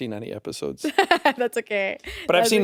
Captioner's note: chuckles